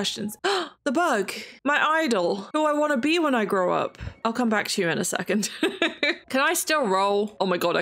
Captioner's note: laughs